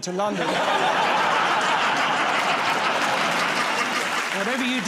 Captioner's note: laughter